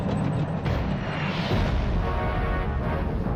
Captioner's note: rocket whooshing; explosion booms